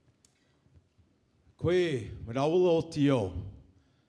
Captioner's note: greeting in Mi'kmaw language